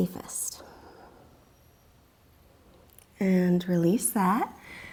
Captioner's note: deep breathing sounds; deep breathing sounds